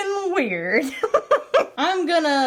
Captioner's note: giggling